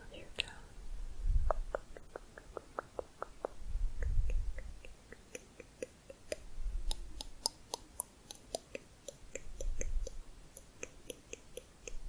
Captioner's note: tongue clicking